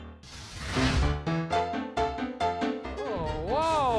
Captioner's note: flames sizzling; upbeat music